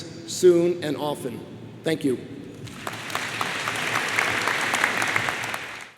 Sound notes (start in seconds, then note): 2.6 crowd applauds